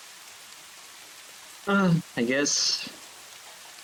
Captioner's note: sigh